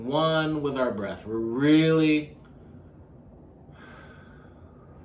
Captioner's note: exhaling